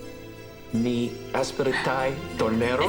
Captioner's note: speaking in foreign language